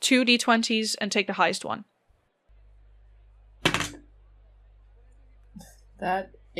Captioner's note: solid dice thunks